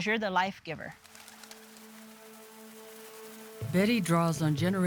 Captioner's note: bird wings flapping